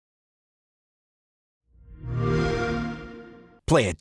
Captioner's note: xbox sound